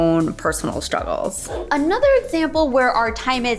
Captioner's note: air whooshing